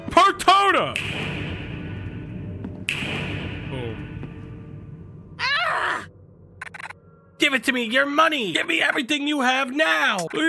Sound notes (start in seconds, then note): 5.4 Jenny groans